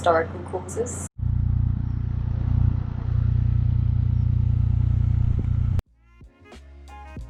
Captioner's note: narrowboat engine sound